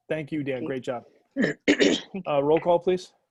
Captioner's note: clearing throat